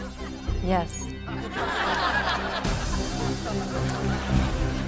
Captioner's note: everyone laughs